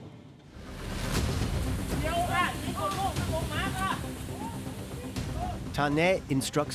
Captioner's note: men speaking Thai